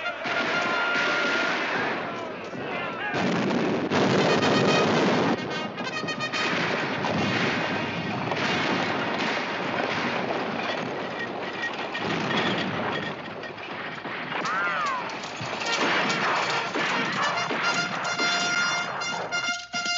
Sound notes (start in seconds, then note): 3.9 explosions nearby; 5.6 bugle playing; 7.7 gunfire